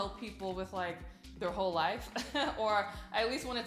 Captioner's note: chuckles